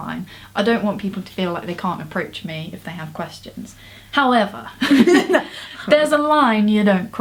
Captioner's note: laughs